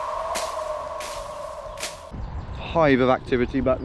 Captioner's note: tumble weed rolls